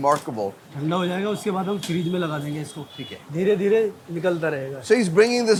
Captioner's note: speaking in Hindi